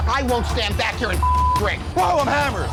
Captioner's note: beep